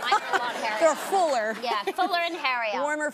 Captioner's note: audience laughing